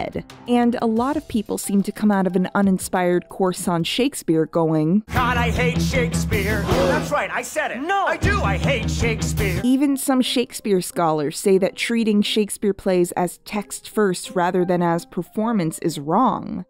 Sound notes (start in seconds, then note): 6.6 gasps